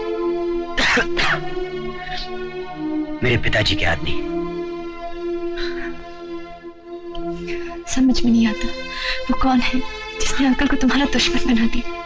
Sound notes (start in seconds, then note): 0.7 cough